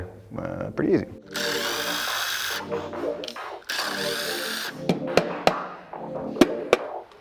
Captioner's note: bright music; driller drilling